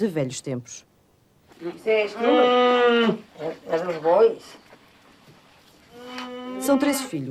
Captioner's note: speaking portugese